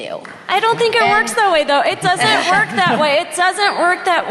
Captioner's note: laughter